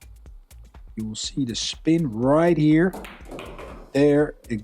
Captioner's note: balls clack